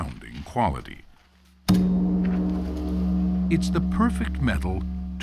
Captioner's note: bell rings deeply